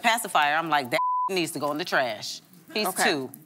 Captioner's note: beep